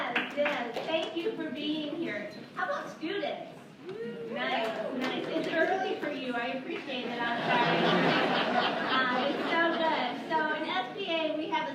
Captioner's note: laughter